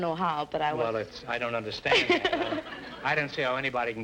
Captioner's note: laughing